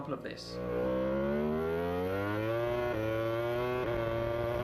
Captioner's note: engine roaring